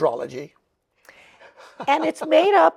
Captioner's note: laughs